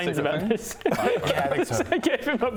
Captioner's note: sadistic laugh